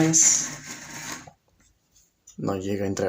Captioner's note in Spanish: Silencio